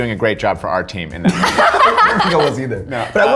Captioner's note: all laughing